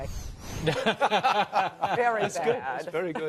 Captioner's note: laughter